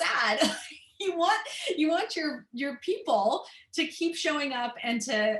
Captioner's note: laughter